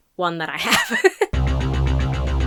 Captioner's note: laughs